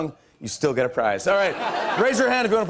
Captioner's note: light laughter